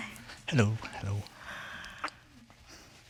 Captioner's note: sighs